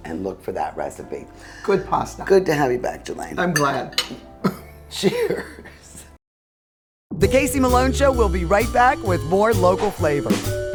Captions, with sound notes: and look for that recipe. - Good pasta. - Good to have you back, Julaine. - I'm glad. (chuckles) - Cheers. "The Casey Malone Show" will be right back with more local flavor.